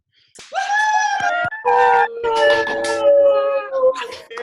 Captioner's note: attendees cheering